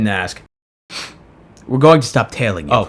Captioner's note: sniff